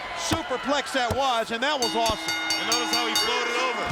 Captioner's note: bell rings